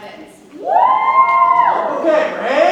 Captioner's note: audience cheers